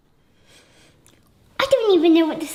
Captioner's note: sniffs